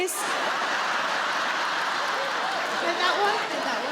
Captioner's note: audience laughing